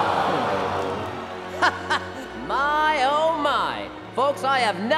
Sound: chuckling

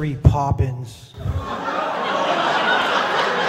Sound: laughters

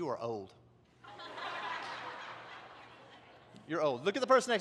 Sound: congregation laughs

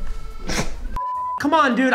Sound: snorts; beep

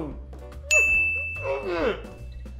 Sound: ding; laughs

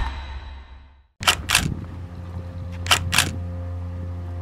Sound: camera clicks

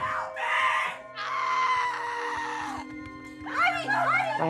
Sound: screaming

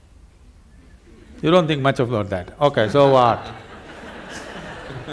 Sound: laughter

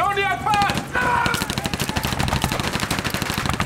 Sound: sound of bullets

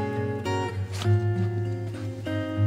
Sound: sniff

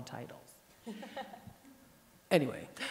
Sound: laughs

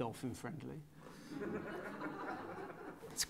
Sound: laughter

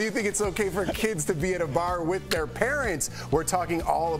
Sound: laughter

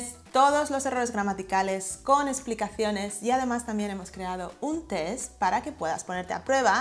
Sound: Spanish

